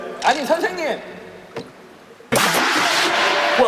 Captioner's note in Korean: 쿵!